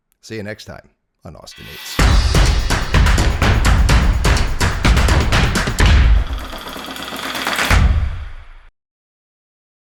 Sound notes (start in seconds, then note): 1.5 upbeat drum music; 2.1 flames sizzle